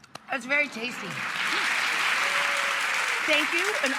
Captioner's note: audience claps